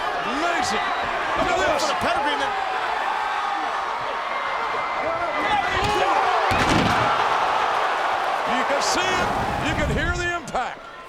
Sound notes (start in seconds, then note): 2.7 audience chattering; 7.1 audience groans